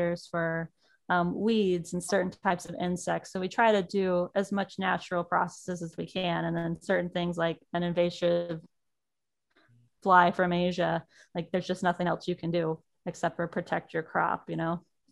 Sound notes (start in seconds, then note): none